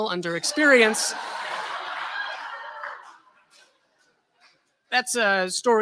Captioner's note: laughter